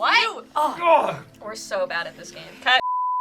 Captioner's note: groans; beep